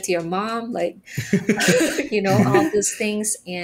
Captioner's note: all laughing